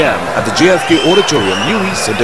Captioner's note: wild applause and cheering for 22 seconds